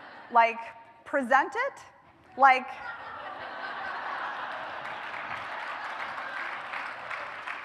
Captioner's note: laughter; laughter